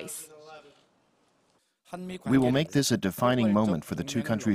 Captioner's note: Korean